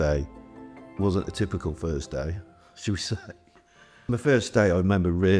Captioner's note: laughs